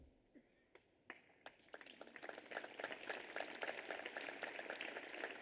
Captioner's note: audience applauds